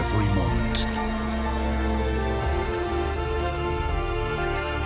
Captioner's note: shutter snaps